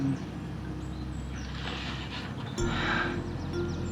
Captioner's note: sighs